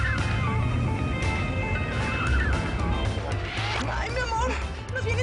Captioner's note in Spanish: Chirrido de neumáticos